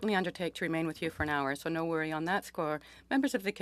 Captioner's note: speaking French